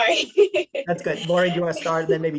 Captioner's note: laughs